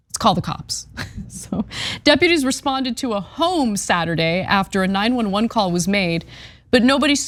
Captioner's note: laugh